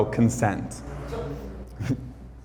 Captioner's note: sound from crowd